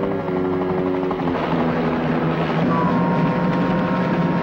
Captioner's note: truck engine whirring